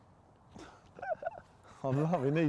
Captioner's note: chuckling